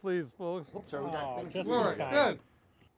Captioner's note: group chattering